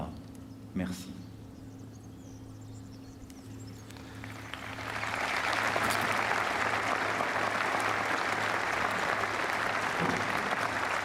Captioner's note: speaking french; applause